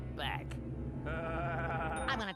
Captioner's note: laughing fiendishly